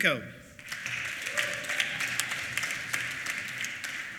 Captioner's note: applause